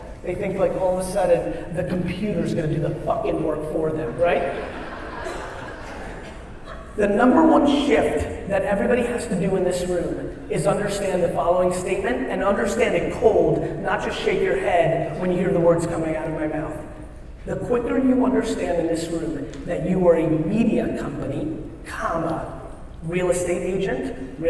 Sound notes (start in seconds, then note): 4.1 audience laughs